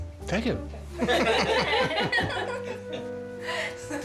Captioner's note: all laughing